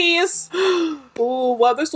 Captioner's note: gasps